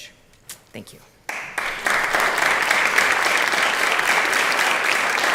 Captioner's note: applause